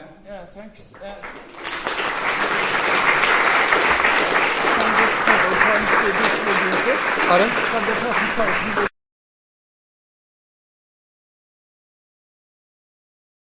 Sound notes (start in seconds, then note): 0.9 applause